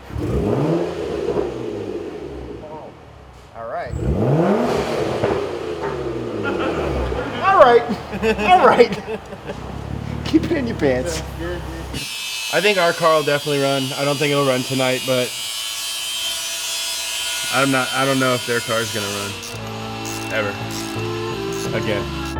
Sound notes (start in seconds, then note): 0.3 car engine roars to life; 4.9 car engine revving; 9.1 laughing; 15.6 buzzing sound